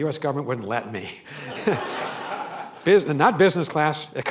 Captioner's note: laughter